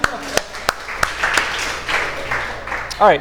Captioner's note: applause